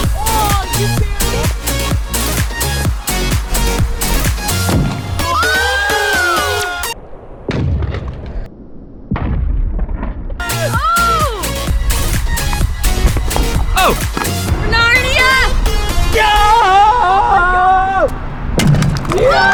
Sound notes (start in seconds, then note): 5.2 cheering; 6.9 slow motion explosion